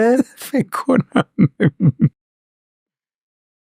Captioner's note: laughs